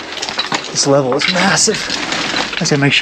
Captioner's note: rocks crunching